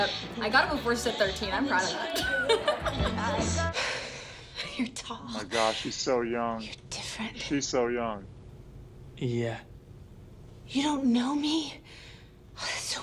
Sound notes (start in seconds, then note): 1.8 laughs; 4.6 sighs